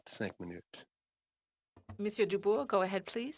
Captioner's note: speaking French